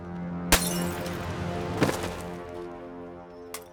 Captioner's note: glass shattering